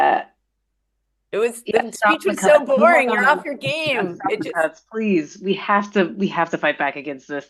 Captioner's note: laughter